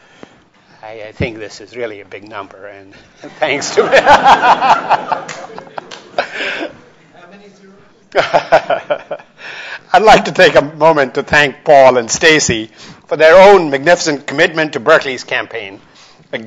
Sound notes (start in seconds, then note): 3.2 audience laughs; 3.2 laughs; 8.1 laughs